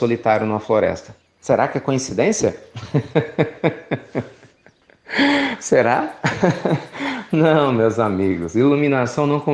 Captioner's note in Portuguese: Risos